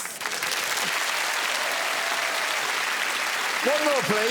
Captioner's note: applause